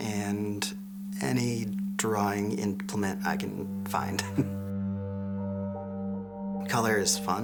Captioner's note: chuckle